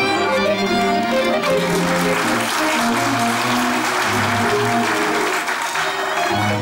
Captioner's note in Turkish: Alkış sesleri